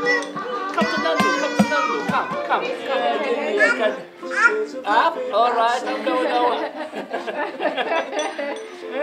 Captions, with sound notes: Come to Nonno. Come to Nonno. Come, come. Come over to me. - Up. - Up? Alright. - I'm going to go up. (Laughter)